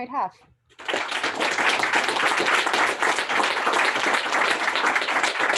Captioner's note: applause